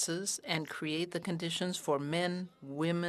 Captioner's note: speaking french